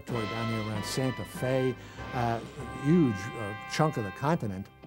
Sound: none

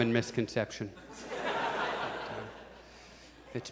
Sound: audience laughs

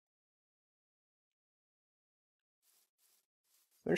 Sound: silence

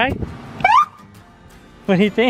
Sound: siren screeches

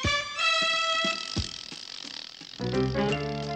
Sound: imaginary motor winds

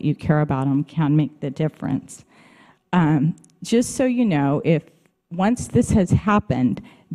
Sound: none

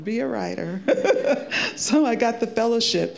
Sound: laughing

